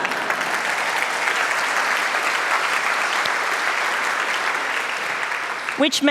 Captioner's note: applause